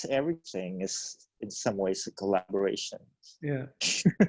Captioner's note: laughs